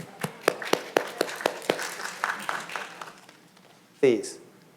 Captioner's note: audience clapping